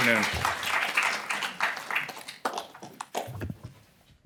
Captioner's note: applause